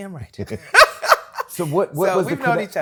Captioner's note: laughs